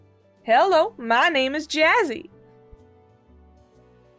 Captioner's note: attempting American accent